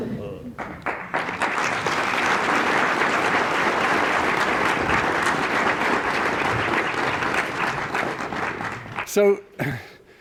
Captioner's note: applause